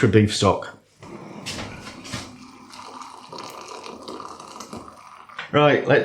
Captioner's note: pourin water